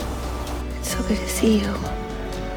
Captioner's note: voiceover